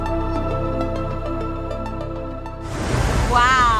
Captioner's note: waves breaking